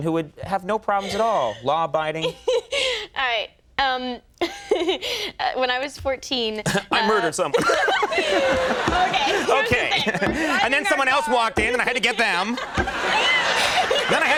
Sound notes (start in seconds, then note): 2.2 Jennifer laughs; 4.6 laughs; 8.8 laughs